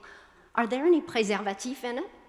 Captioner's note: speaking foreign language